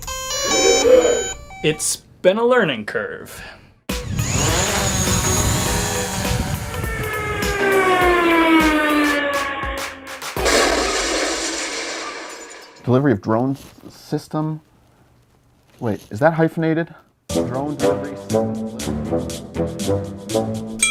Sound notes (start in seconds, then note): 0.2 beeping sound, group gasps; 3.8 upbeat music continues; 6.0 plane flying over; 10.3 crashing sound; 17.3 trumpet music